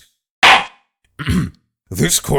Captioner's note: gavel slams!